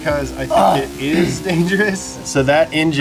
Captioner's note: chuckles